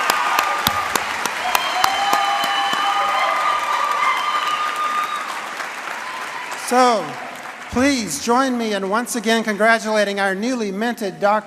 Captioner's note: applause and cheering